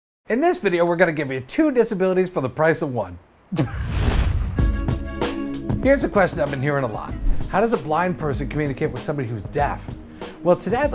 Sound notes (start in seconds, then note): 3.7 swoosh / music plays